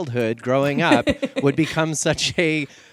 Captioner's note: laughs